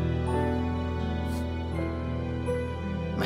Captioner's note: Sniffs